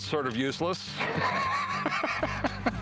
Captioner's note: laughs